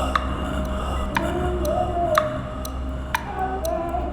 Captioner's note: clock ticking